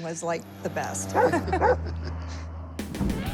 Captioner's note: laughter